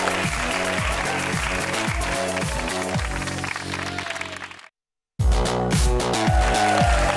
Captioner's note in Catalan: aplaudiments